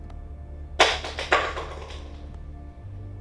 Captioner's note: weeping